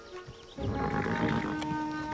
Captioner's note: horse snorts